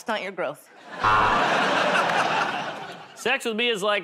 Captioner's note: buzzer